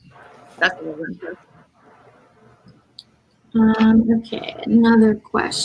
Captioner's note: radio interference drowns out speaker